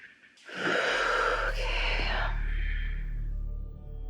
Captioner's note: sigh